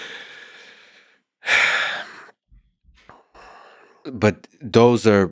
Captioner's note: Eliezer sighs